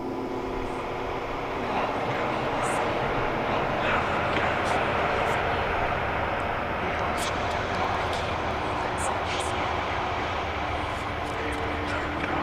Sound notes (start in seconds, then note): 0.0 suspenseful music intensifies; 3.0 whispering voices